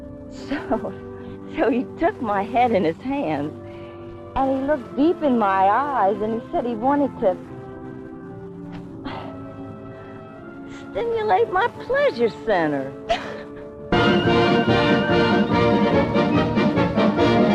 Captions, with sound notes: So he took my head in his hands and he looked deep in my eyes and he said he wanted to stimulate my pleasure center. (Gabriella laughs) (lively band music)